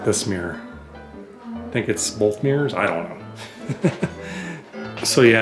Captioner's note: laughter